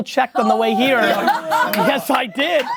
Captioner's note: laughing